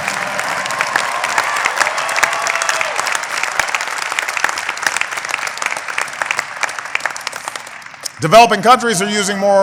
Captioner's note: applause